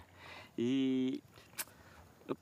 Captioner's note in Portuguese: estala lábio